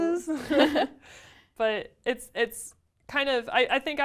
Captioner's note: laugh